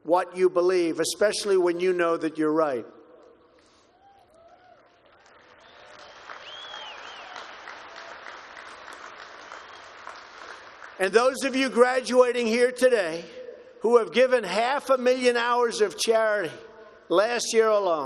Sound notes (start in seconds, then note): 4.0 applause